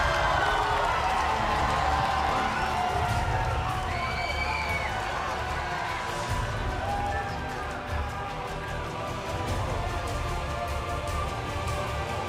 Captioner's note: crowd cheering